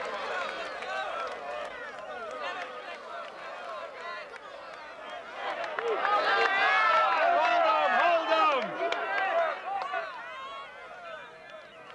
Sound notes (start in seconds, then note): 5.5 cheering